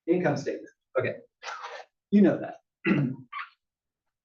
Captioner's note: cough